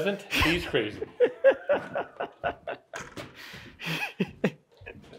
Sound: laughs

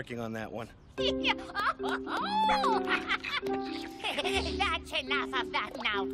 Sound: laughing

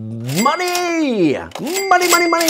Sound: cash register ringing

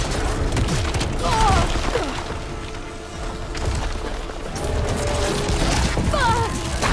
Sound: boulder crumbling; Aloy grunts

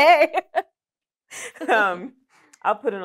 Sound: laughter

